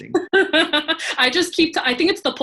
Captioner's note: laughs